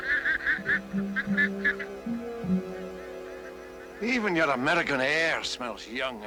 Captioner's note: ducks quacking